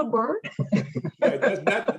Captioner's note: all chuckling